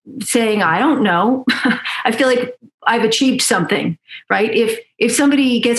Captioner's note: laughs